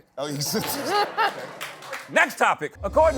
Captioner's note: laughter, applause